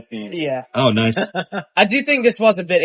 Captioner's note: laughs